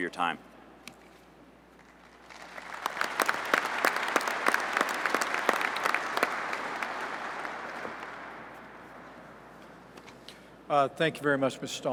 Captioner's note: applause